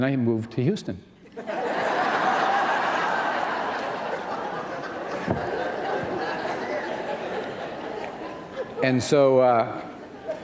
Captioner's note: laughter